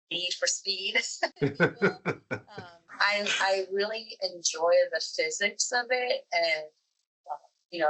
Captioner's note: both laugh